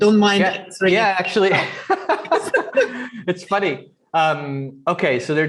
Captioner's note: laughs